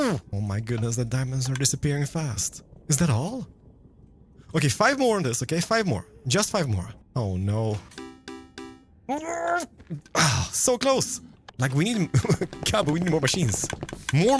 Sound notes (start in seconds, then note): 7.8 noteblocks chime; 9.1 frustrated noises